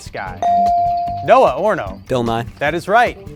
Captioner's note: bell sounding